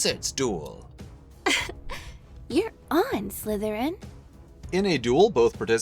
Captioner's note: giggle